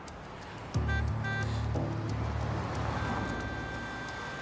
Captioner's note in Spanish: tocan el claxon